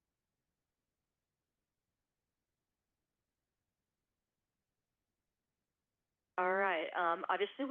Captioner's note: silence